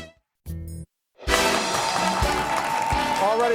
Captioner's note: audience cheers